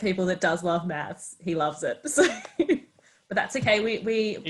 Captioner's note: laughs